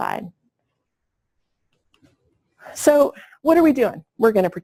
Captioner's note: pause